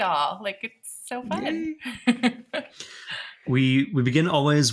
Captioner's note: chuckling